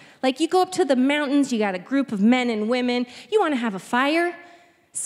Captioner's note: none